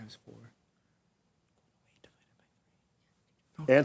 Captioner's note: contestants whispering